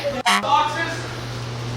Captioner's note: beep